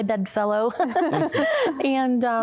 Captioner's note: laughter